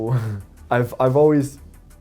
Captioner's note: chuckles